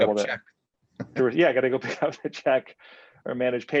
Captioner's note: chuckles